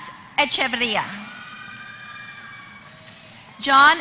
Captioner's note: applause